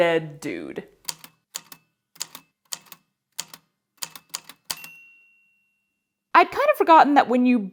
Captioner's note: A typewriter clicks away, then dings